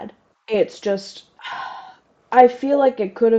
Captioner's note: sigh